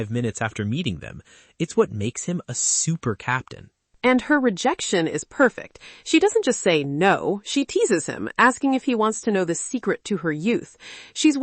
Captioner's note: talking